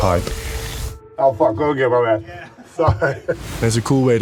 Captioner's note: chuckles